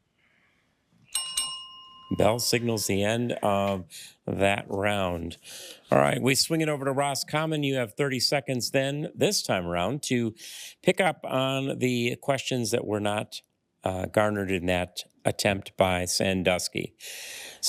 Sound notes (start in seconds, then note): 1.1 bell dings